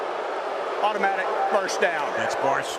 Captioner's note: booing